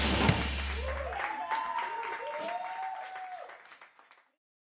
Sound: aplausos

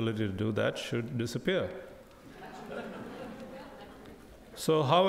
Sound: crowd laughing

